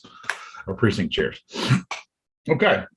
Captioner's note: snorts